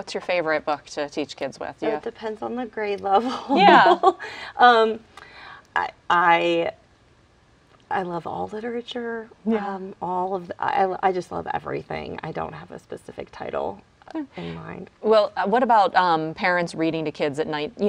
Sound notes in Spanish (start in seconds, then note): 3.3 risas